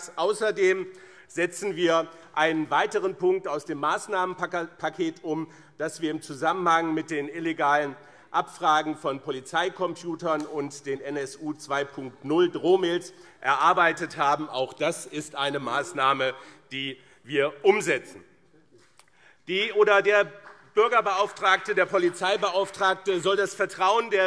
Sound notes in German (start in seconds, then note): 18.2 Beifall BÜNDNIS 90/DIE GRÜNEN